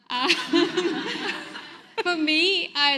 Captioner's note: audience laughs